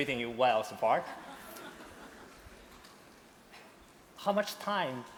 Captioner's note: laughter